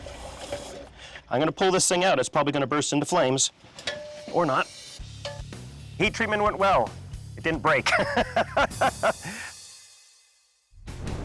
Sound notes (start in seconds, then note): 7.8 laughs